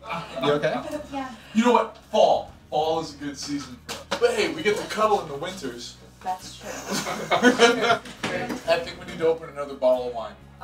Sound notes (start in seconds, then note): 6.6 laughing